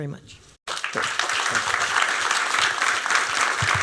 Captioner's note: applause